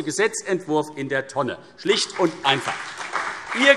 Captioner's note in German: Beifall CDU und BÜNDNIS 90/DIE GRÜNEN